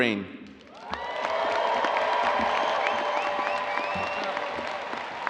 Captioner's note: audience cheering and applauding